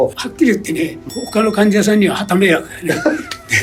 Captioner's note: laughs